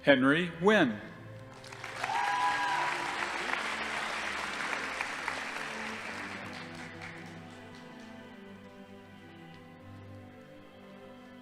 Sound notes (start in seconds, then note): 1.5 audience applauding; 1.6 crowd cheering